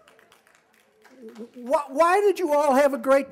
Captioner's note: applause